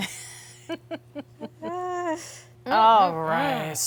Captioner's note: both laughing